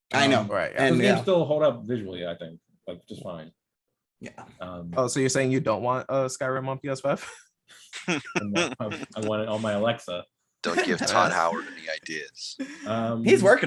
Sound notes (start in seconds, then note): 8.0 laughing